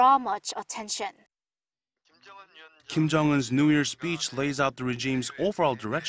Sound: Korean

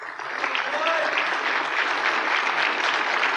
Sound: applause

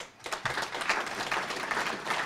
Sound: applause

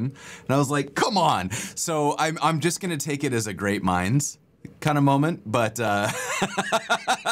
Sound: laughter

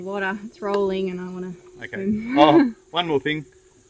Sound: laughs

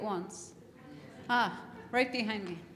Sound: laughter

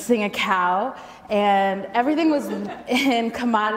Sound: audience laughs

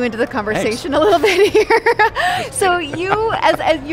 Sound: laughs

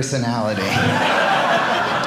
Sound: audience laughing

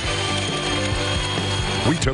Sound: whirring

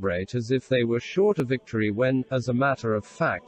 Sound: voice reads

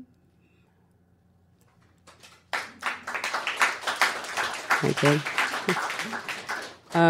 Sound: applause

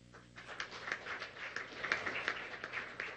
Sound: applause

